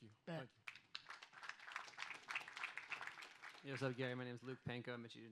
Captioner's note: audience applauds